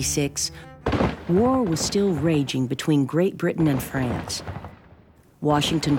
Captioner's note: gunfire